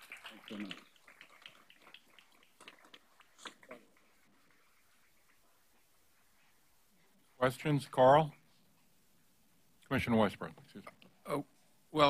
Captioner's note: applause